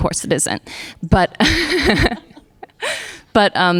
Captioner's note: laughter